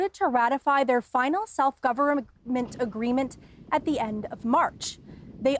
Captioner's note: speaking indigenous language